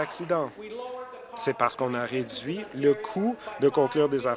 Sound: applause

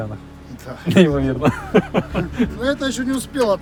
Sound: laughter

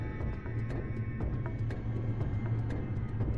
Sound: hovering sound

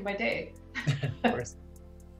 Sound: laughing

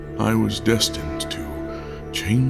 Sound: none

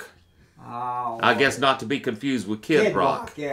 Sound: groans

